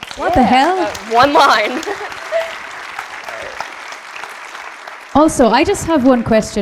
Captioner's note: audience claps; laughs